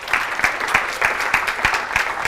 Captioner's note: applause